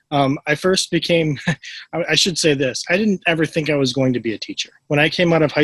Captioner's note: laughs